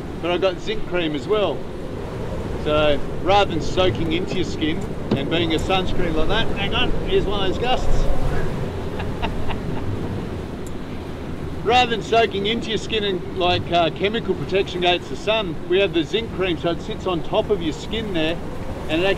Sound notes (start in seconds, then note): 8.4 laughs